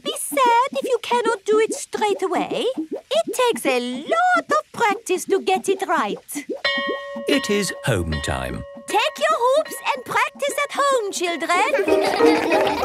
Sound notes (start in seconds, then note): 6.6 bell rings; 11.6 all laugh